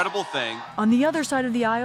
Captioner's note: cheering